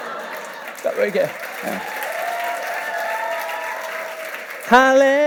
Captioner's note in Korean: 박수와 환호